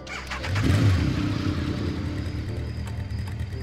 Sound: engine revs

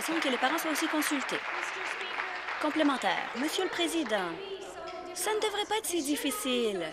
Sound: applause

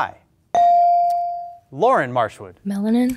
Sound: beep

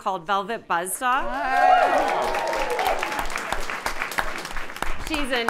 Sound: audience applauding

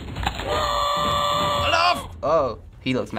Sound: cookies crumbling rapidly; in game: infuriated scream

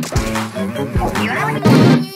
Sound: Gay octoling sounds

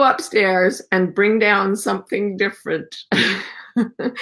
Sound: chuckles

